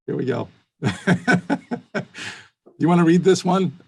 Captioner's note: laughs